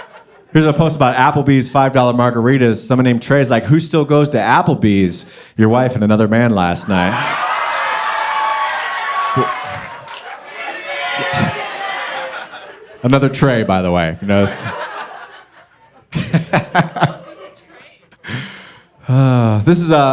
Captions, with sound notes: Here's a post about Applebee's $5 Margaritas. Someone named Trey's like, "Who still goes to Applebee's?" "Your wife and another man last night." - [Crowd] Keep it. - Another Trey, by the way, you noticed? - This is great.